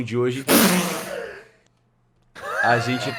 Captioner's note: lets out a laugh